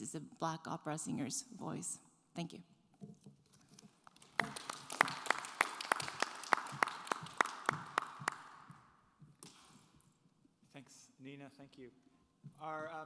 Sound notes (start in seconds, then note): 4.2 audience applauds